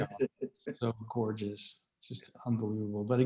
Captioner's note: chuckling